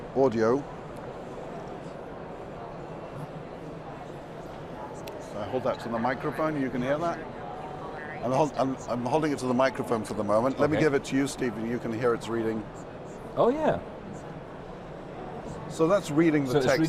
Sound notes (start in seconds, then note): 7.1 device speaking